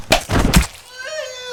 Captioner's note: birds chirping; blood squelching; Ninja whimpering